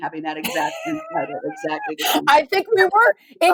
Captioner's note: laughing